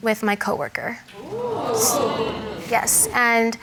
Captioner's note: audience exclaims